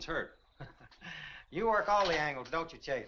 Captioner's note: Compton chuckles